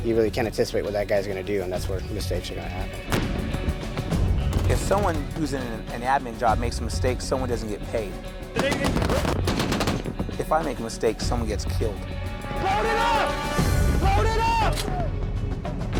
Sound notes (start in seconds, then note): 3.7 explosion; 8.6 automatic gunfire